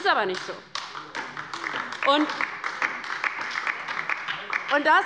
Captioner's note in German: Beifall bei der LINKEN